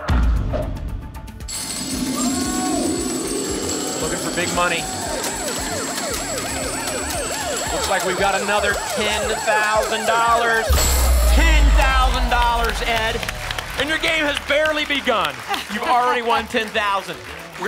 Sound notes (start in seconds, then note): 0.0 thump; 1.4 coins jingling; 5.3 sirens